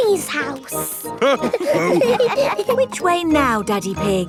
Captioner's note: all laughing